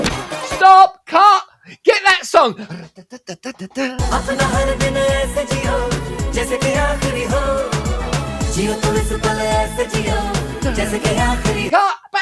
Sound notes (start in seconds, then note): 8.2 humming